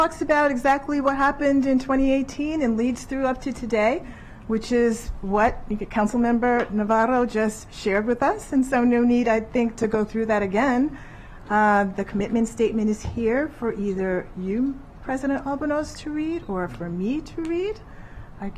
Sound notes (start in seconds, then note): none